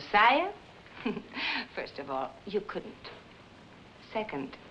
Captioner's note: chuckles